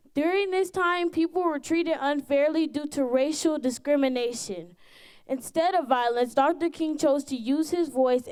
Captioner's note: none